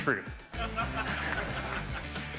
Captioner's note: audience laugh; upbeat music continues